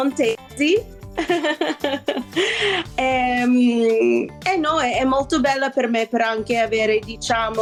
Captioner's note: laughs